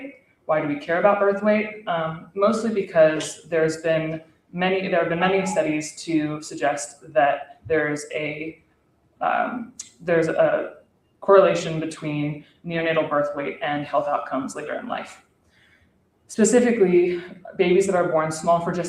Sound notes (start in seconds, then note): none